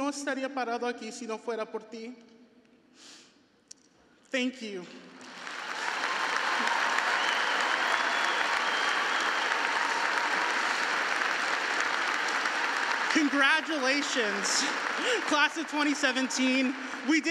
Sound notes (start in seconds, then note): 5.5 audience clapping